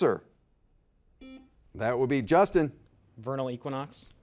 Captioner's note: buzzer beeps